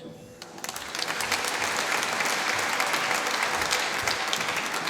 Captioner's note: applause